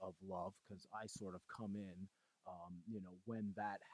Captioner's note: laughing